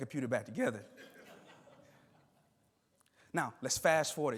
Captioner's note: attendees laughing